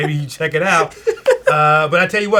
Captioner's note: laughing